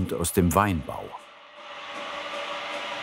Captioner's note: whirring